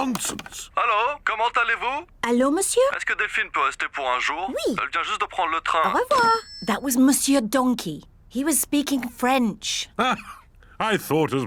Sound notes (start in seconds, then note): 2.8 speaks french